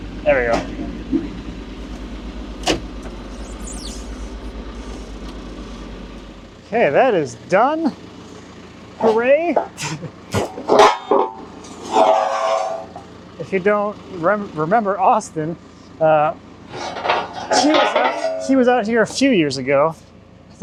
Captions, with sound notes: - There we go. (telehandler whirring) Okay, that is done. Hooray. (metal clanking) If you don't remember Austin... He was out here a few years ago.